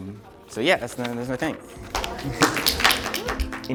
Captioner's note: applause